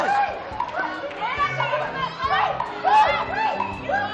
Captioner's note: yelling